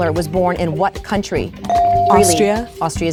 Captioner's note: bell dings